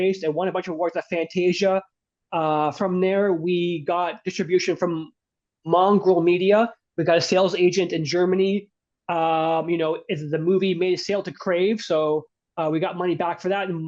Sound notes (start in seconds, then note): none